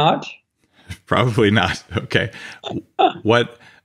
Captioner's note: chuckling